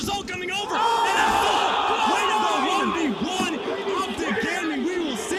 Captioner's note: crowd shouting